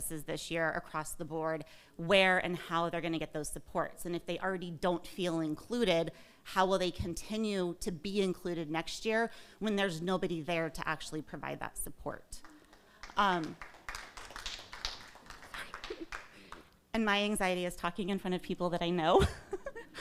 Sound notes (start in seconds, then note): 13.4 crowd applauding